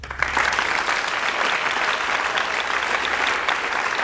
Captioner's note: audience applauds